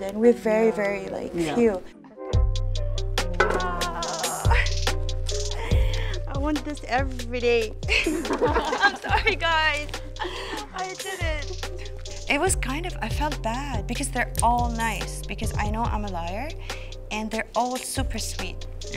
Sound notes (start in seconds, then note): 2.3 upbeat music; 7.9 group chuckle